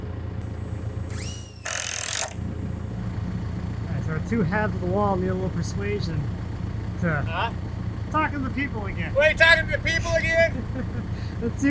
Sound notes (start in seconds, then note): 1.0 drill buzzing